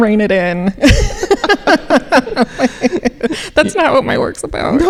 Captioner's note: laughing